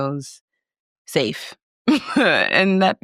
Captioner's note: chuckles